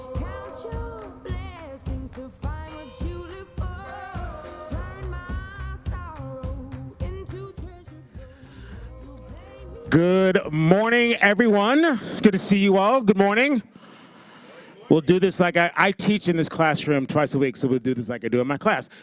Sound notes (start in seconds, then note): 13.4 soft audience response